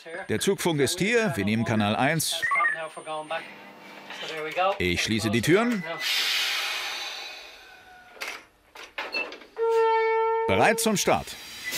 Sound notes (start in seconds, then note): 6.0 hiss; 9.1 low whistle